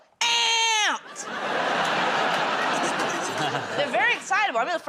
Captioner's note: laughter